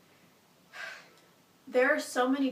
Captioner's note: sighs